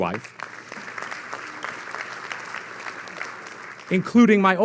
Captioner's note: audience laughing